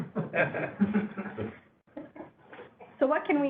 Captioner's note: laughter